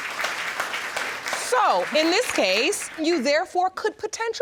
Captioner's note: audience applauding